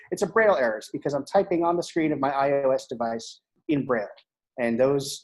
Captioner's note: none